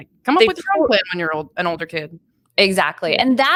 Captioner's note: speaking faintly